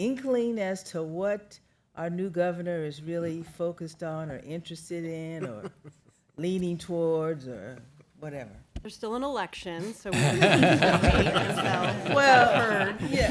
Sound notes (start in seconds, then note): 10.1 laughter